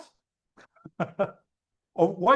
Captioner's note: laughs